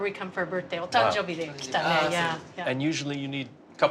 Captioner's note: speaking Japanese